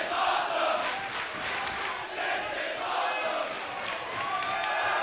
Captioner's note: audience chanting